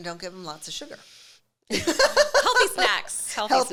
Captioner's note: laughing